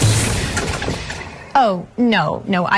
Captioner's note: whoosh